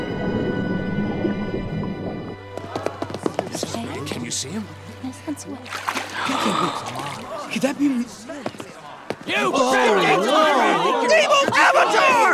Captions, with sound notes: Can you see him? [gasping] Could that be... [screaming] Evil Avatar!